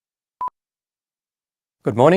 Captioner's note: beep